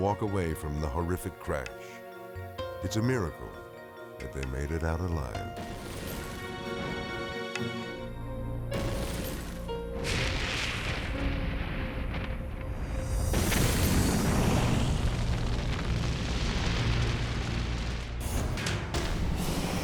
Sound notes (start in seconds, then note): 9.6 jet whooshing; 14.1 flames whooshing; 18.0 intense music